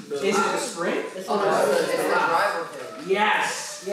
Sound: chatter

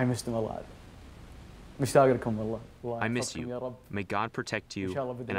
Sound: through translator

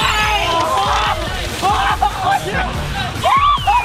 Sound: screaming from coldness

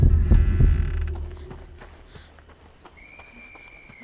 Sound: door creaking; whistle blowing

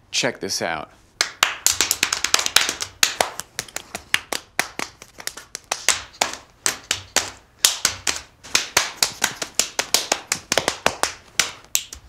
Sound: knee slapping noises

